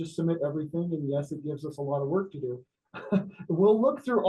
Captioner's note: laughs